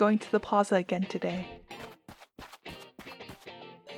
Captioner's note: running sounds